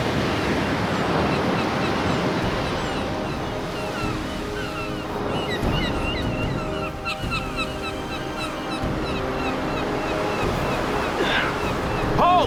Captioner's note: sea gulls